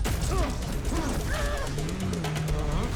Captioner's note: straining